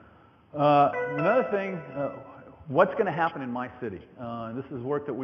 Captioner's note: computer tone